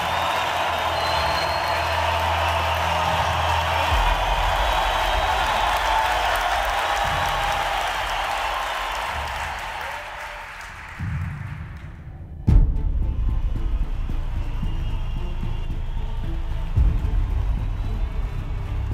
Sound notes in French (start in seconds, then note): 5.3 acclamations; 9.2 applaudissements